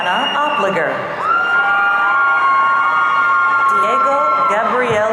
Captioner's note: audience cheering